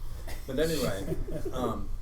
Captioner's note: laughing